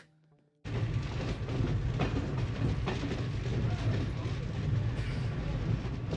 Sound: train sounds

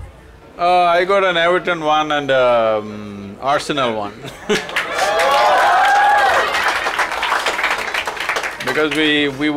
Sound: cheers/Applause; laughs

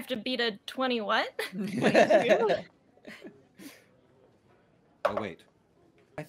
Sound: multiple laughing

